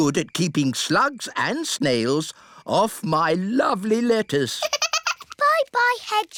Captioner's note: giggles